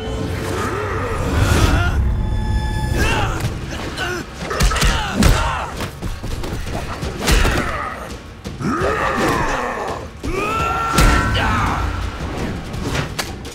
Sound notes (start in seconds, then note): 0.1 grunting; 6.9 grunting